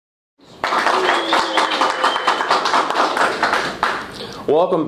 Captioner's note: cheering and applause